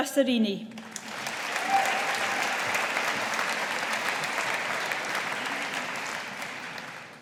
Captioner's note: audience applauding